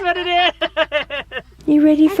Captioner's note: laughing